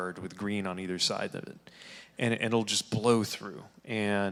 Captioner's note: none